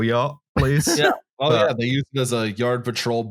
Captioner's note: laughs